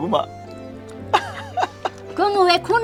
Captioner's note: laughing